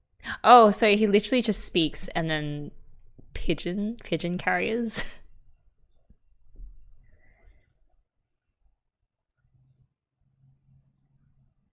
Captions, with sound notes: Oh so he literally just speaks, and then... pigeon - pigeon carriers? [laughs]